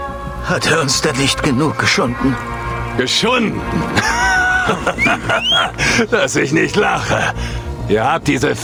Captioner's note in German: gelächter